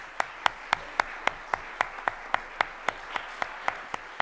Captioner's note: audience applauding